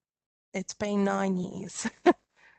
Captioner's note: chuckles